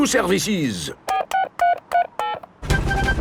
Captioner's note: dialing